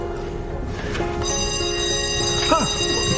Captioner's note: Sună clopoțelul școlii